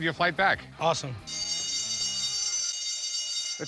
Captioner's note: bell ringing